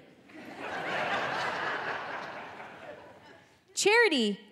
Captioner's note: audience laughing